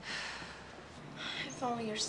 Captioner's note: Wanda sighs; sighs